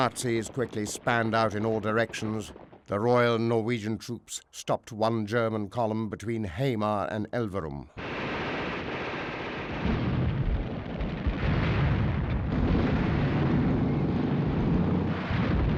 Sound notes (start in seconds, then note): 8.0 guns shooting